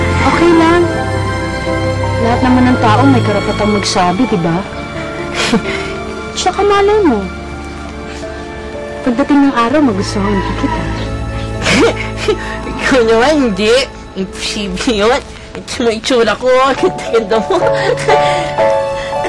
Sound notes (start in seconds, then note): 5.3 Toni chuckles; 11.3 laughs